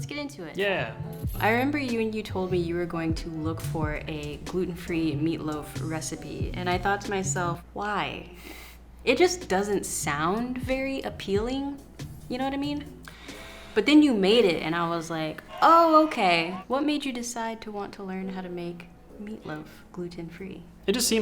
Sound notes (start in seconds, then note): 15.4 crowd cheering